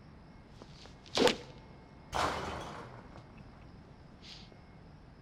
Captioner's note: striking and clattering